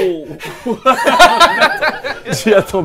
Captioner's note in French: Rires